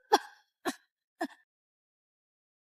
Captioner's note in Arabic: يسعل